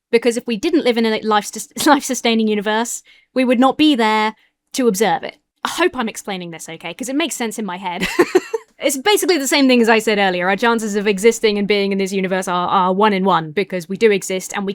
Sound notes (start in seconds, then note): 7.9 laughs